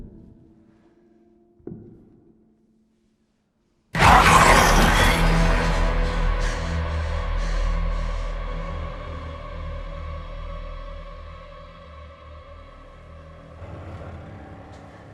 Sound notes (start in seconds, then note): 3.9 William screams; 5.7 Emma panting; 5.7 tense music